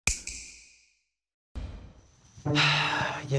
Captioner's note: snap